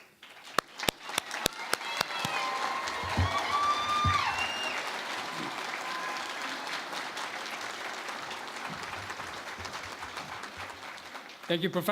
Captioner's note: cheering and Applause